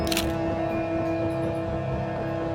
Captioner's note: camera shutter clicking; dramatic music